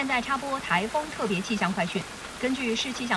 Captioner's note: continuous rain and wind